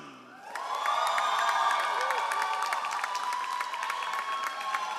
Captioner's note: all applauding